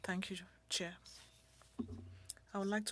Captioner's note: speaking French